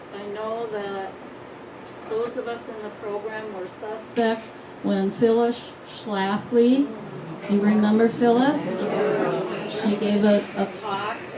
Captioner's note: groans, yea's, oh's